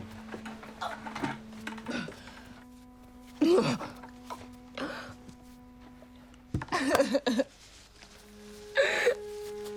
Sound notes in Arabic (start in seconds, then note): 6.2 تنهد